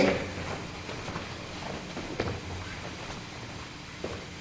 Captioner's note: soft footsteps